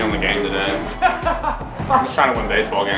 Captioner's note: laughs